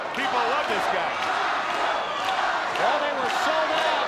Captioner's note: audience chanting